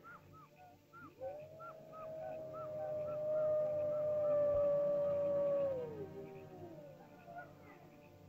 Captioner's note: animal chirps; ominous music; animal howls; ominous music